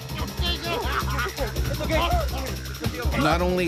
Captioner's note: crying in agony